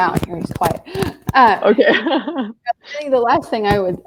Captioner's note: laughs